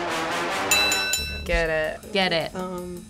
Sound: bell rings

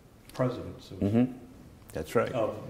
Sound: laughter

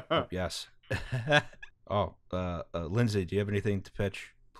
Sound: laughter

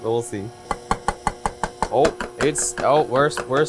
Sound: bowl clanging

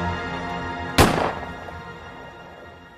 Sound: gunshot

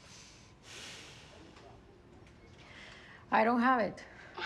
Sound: Maria sighs

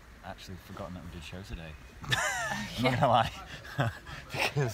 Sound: laughing

